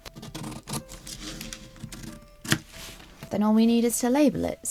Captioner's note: scissors snip